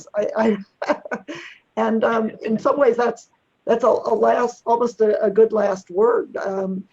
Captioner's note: laughs